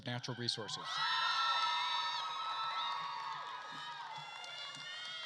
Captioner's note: attendees cheering and applauding